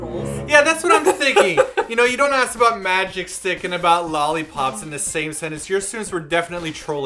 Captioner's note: laughs